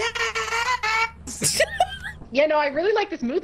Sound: laughs

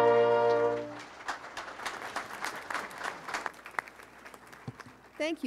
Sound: audience applauding

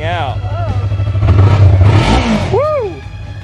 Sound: engine revving

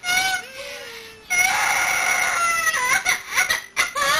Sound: sobbing

